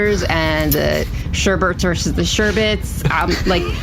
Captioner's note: stifled laughter